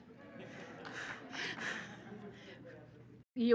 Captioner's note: laughter and applause